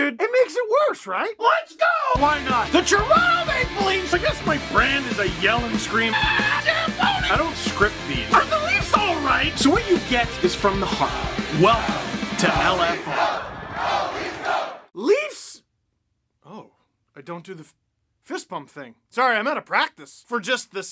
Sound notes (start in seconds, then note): 2.4 rock music plays throughout intro; 6.1 screams